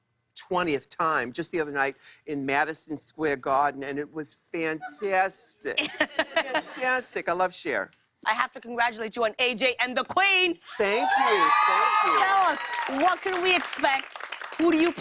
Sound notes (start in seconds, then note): 5.7 laughter; 10.8 cheers and applause